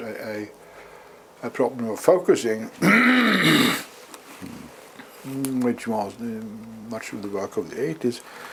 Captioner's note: cough